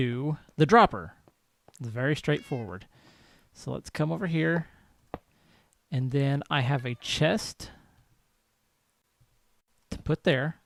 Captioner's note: cat meows